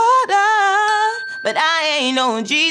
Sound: bell dings

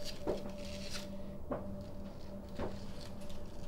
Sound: footsteps approaching

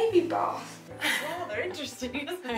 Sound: laughing

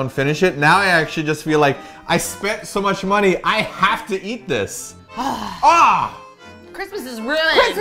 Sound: sighs; grunts

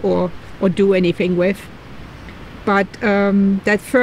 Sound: none

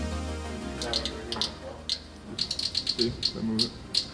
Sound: sensor clicking

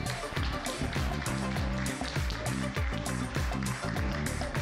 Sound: applause

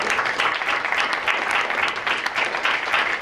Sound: applause

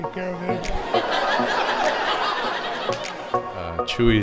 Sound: audience laughs

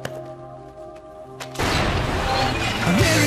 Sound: raising of door; mixed yelling

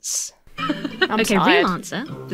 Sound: laughs

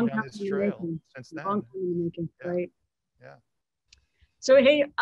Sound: overlapping chatter

